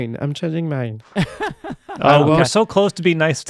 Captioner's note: laughing